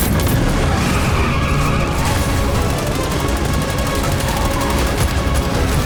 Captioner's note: tires screeching and gunfire